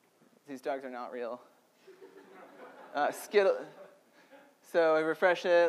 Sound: audience laughter

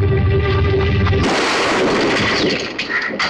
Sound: bomb explodes

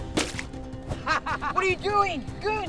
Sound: laughing

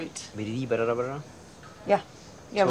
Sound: speaking in foreign language

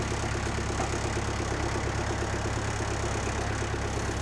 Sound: engine rumbling

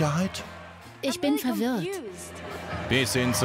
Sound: German Voiceover Translation

